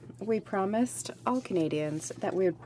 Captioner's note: speaking French